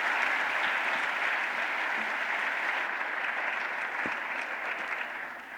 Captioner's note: applause